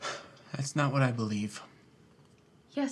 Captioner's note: sighs